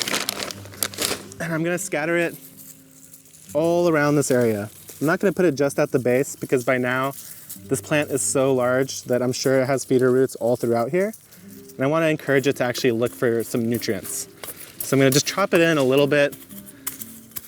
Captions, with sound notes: and I'm gonna scatter it (fertilizer scatters) all around this area. I'm not gonna put it just at the base because by now this plant is so large that I'm sure it has feeder roots all throughout here, and I wanna encourage it to actually look for some nutrients. So I'm gonna just chop it in a little bit,